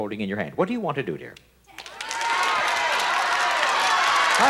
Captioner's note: audience shouting